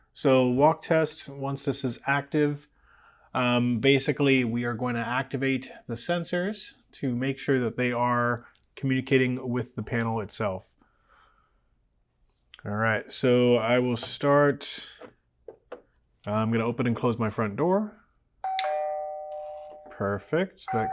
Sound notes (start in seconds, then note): 18.4 doorbell rings